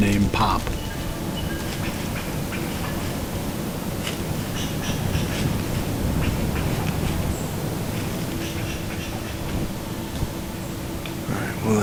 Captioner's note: light wind, forest sounds